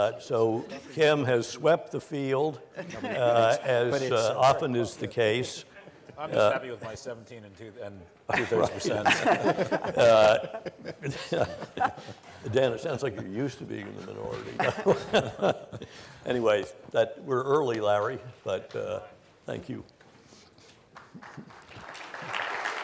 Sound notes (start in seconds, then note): 8.3 laughing; 20.9 applause